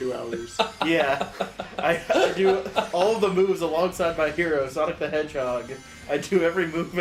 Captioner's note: laughs